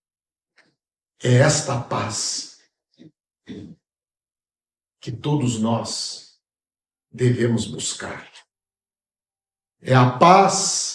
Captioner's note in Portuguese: limpando a garganta